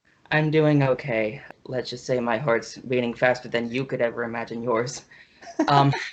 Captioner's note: laughs